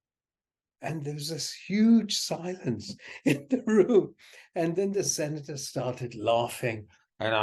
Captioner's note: laughs